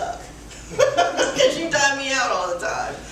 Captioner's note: laughs